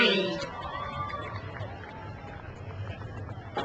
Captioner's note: crowd cheers